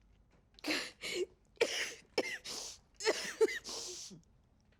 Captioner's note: Mrs. Hill coughs